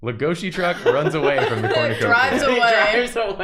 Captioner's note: laughter